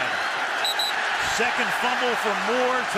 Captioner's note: whistle